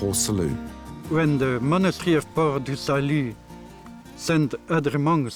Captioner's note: french accent